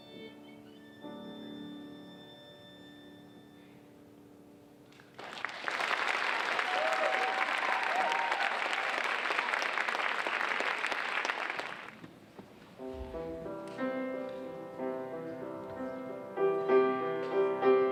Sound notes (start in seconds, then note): 5.0 audience applauding